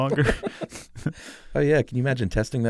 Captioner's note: laugh